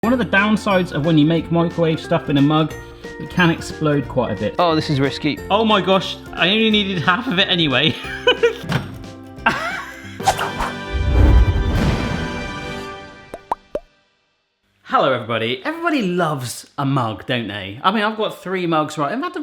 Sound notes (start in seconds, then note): 0.0 playful music; 7.8 chuckling; 9.4 laughing; 10.5 logo whooshing